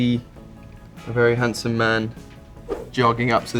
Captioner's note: slide swipe